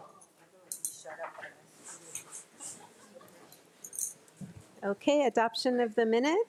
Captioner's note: attendees chattering